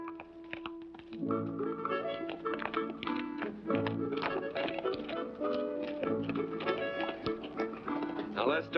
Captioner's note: hooves trotting